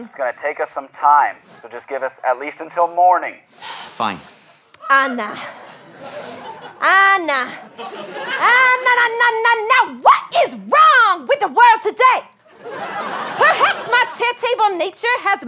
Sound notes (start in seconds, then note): 3.5 inhales sharply